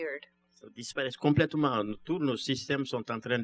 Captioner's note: speaking french